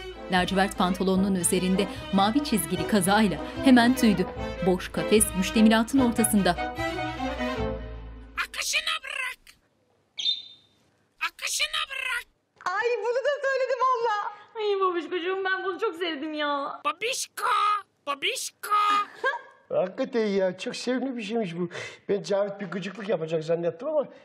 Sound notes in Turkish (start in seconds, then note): 10.1 Papağan sesi